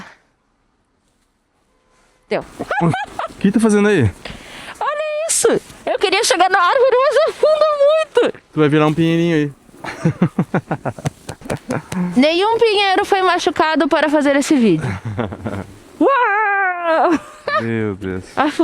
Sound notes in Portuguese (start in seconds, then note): 9.8 risadas